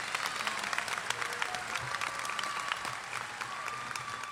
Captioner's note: applause